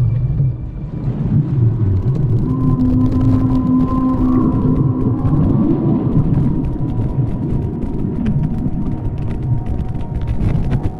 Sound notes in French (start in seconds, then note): 2.8 Chant de baleine